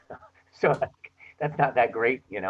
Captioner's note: chuckles